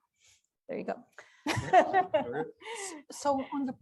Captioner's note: laughter